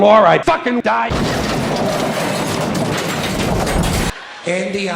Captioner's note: Explosion noise from Rusty and the Boulder